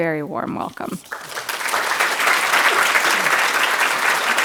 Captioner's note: crowd applauding